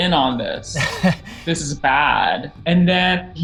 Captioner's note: laughing